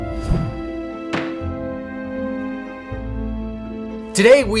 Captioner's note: gavel thuds